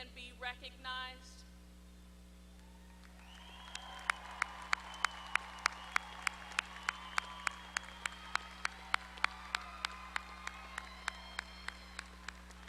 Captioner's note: applause